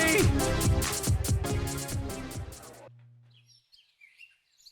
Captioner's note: techno music; birds tweeting